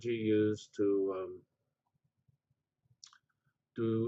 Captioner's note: pause